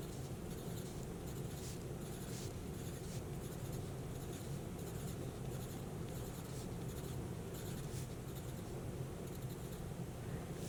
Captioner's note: pencil scratching